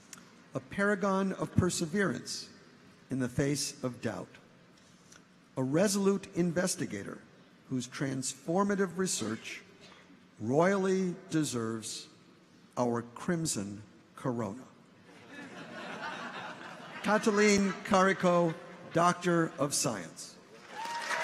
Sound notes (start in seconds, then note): 15.1 audience chuckles; 20.6 audience applauds; 20.6 audience cheers